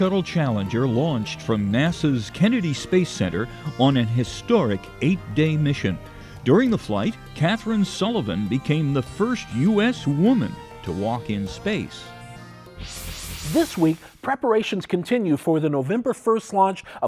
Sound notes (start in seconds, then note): 12.6 sound Effects